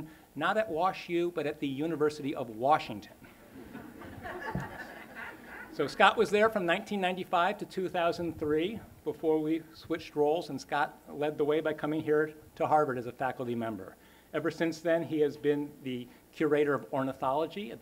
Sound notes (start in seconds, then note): 3.3 laughter